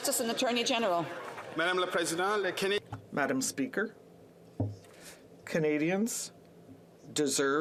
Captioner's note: some Applause